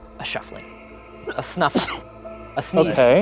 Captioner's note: sneezing